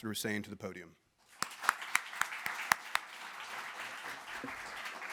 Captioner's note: audience applauding